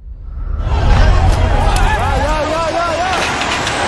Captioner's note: chaotic rioting